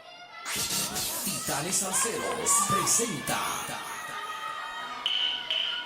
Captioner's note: audience cheering; radio announcer speaking Spanish